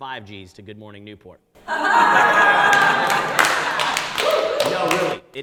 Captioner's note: audience laughs and cheers